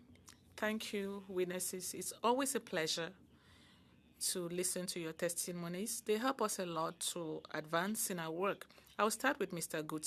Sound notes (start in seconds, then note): 4.6 speaking French